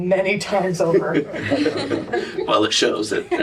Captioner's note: laughter